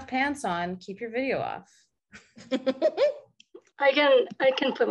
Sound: laughs

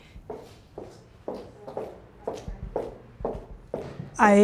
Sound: heels clacking

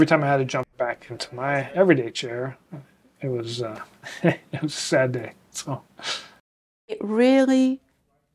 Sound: laughs

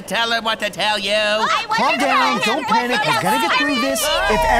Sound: arguing; eerie whining

